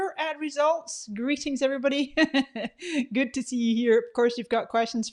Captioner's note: laughs